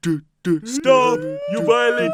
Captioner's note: Villager Sirens begin